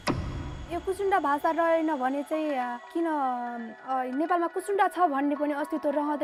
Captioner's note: speaks in foreign language